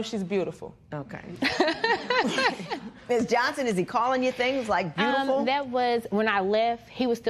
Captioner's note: laughter